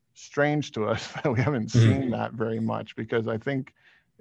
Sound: chuckles

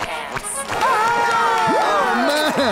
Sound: cheering

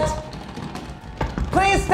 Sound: jiggling knob intensifies

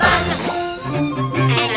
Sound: bell rings

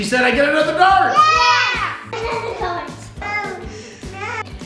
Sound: cheering

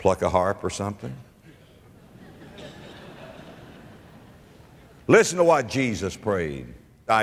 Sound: audience laughter

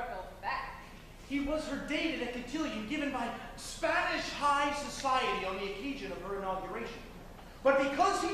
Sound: MARVIN, spoken

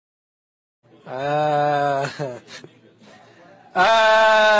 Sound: chuckles

